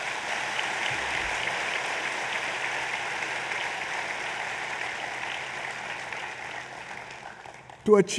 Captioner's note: applause